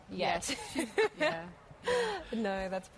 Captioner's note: laughter